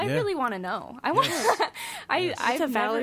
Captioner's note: laughs